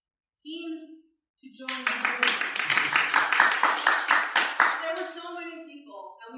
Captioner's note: applause for word of the day